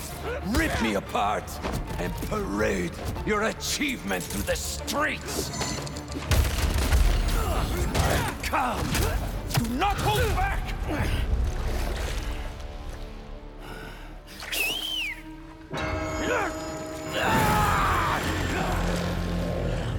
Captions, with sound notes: Rip me apart, and parade.. your achievement through the streets! Alright, come... ...DO NOT HOLD BACK! (whistle) (bell ringing)